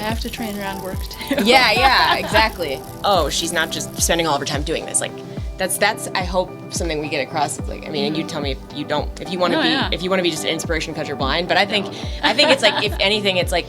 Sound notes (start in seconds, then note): 1.2 laughs